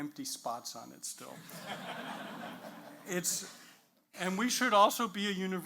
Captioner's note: audience laughs